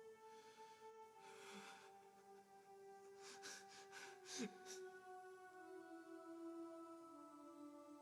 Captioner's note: quiet sobbing